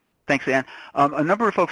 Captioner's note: voiceover